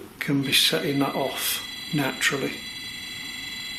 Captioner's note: beeping